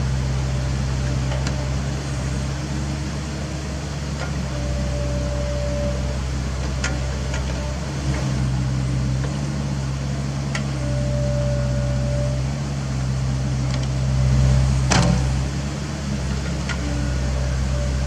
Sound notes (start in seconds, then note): 7.7 idle rumble